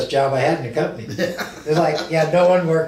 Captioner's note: laughs